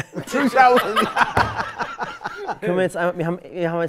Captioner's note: Gelächter